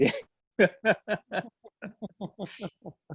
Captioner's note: both laugh